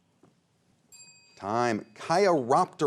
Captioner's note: bell chimes